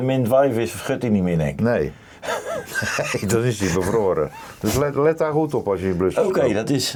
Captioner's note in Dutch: gelach